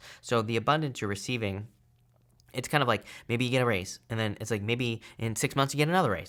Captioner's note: none